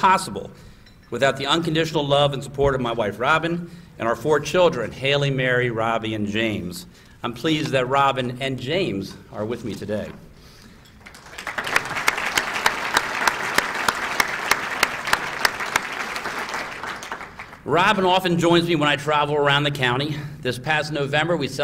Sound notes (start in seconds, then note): 9.0 applause